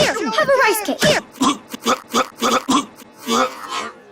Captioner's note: choking